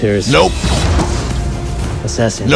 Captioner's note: TK-2S0 fires a blaster pistol